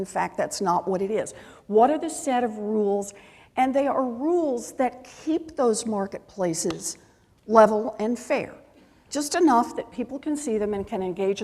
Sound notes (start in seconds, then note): none